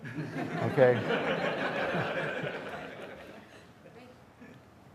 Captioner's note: audience laughing